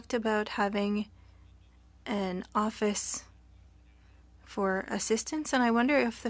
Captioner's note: speaking French